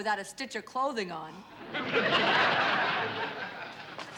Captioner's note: laughter